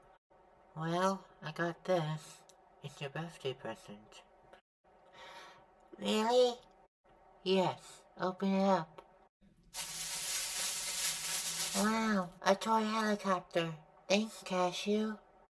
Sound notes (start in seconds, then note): 5.1 gasp; 9.7 unwraping